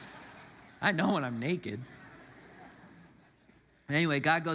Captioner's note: congregants laugh